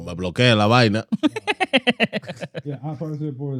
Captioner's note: speaking Spanish; laughter